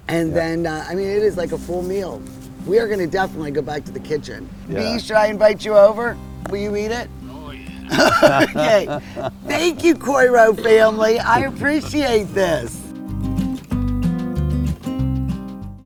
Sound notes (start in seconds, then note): 7.8 laughter; 12.9 spanish guitar